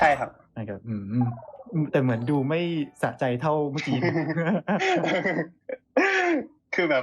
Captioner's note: laughs